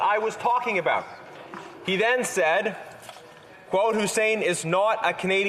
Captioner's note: none